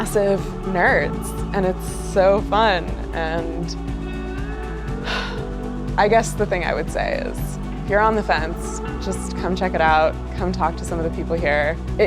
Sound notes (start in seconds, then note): 4.0 happy sigh